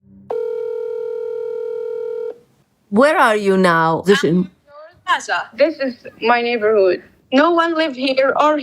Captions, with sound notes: (Phone Rings) Where are you now? This is... This is my neighborhood. No one live here or